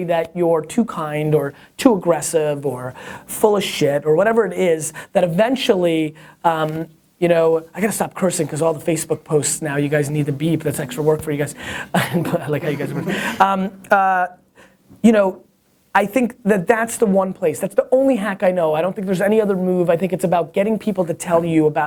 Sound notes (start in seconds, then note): 12.6 laughing offscreen